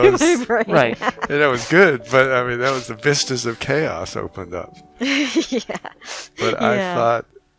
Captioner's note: laughing; laughing